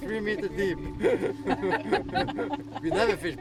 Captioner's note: all laughing